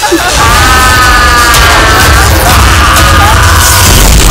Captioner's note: Screaming